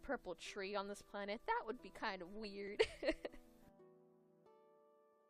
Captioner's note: laughs